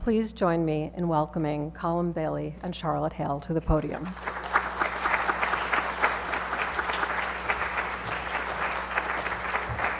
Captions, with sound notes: Please join me in welcoming Colin Bailey and Charlotte Hale to the podium. (audience applause)